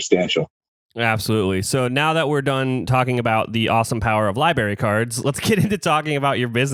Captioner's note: laughs